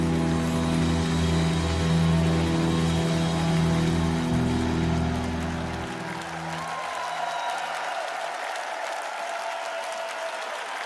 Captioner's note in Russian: ликование